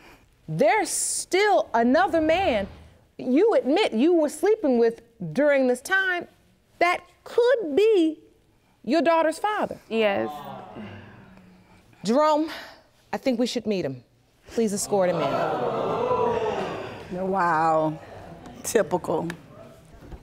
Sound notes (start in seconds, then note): 15.0 audience gasps